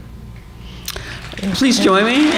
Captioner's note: applause